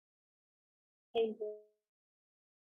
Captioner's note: sound briefly lost